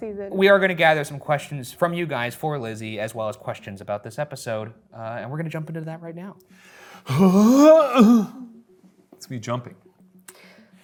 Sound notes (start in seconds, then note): 7.0 grunting